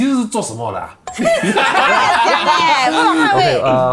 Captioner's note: laughs